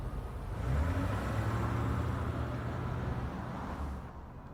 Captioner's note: engine revving